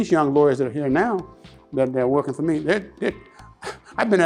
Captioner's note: chuckles